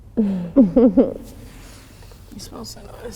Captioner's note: both chuckling